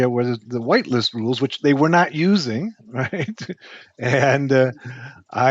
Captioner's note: chuckling